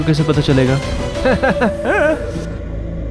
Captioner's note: Giggling